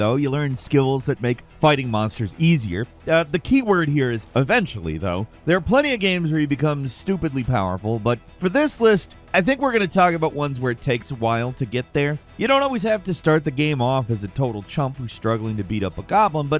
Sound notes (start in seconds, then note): none